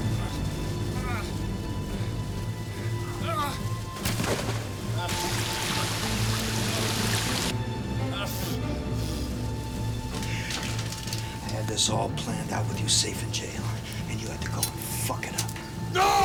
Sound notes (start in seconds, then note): 0.0 Rick crying out; 0.2 water gurgling; 3.2 Rick groaning